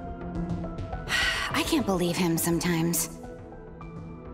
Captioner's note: sigh